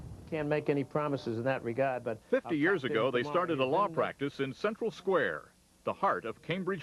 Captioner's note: voice fades out